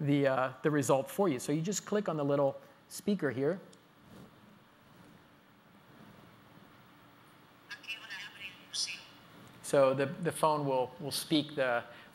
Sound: pause

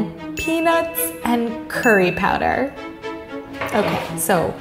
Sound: bell dinging

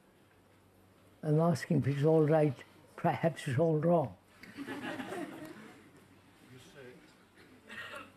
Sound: laughter

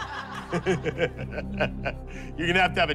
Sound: laughs

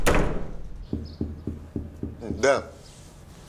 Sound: knocks on door

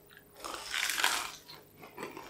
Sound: crunch

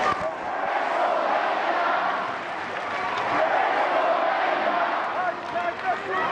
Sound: chanting

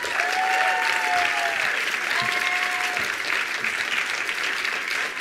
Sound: attendees applauding

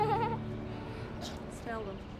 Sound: children laughing

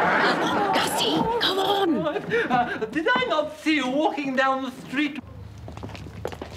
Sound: whispering

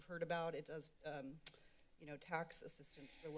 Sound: clicks Tongue

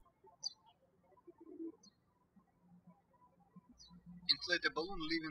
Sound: birds chirping

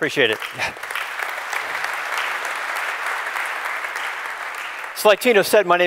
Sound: applause

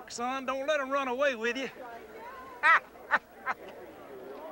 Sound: laughing

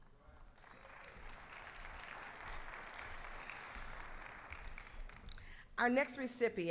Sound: applause

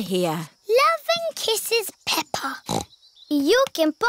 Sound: snorts

